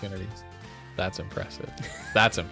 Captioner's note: laughs